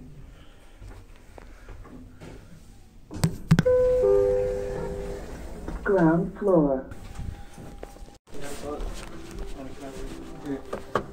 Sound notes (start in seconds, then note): 4.4 chime